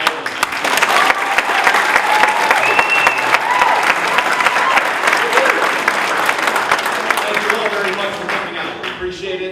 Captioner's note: applause